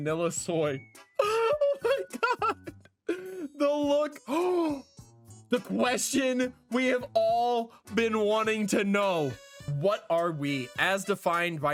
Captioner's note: gasp